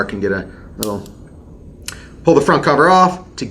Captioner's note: gun clicks